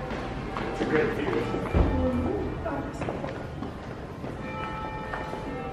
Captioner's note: bell chiming